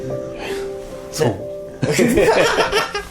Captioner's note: laughter